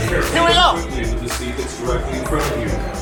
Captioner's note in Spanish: Sistema de megafonía